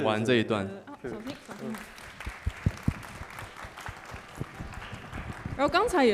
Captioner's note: applause